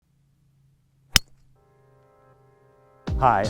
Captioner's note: club striking golf ball